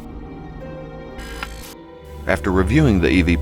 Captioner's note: static fizzing